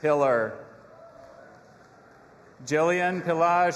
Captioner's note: audience applauding and cheering